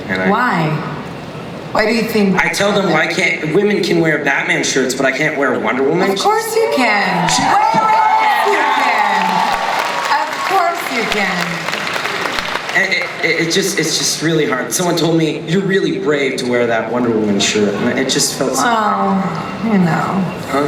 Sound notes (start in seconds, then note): 2.5 voiceover; 7.5 audience cheering; 9.5 audience clapping; 13.3 voiceover